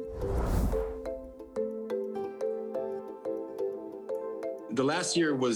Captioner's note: image whooshing; upbeat instrumental music